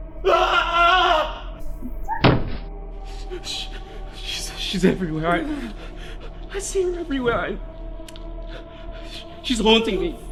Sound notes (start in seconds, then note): 0.2 Lee screams; 1.9 Sakura yelps in shock, hits the ground with a thud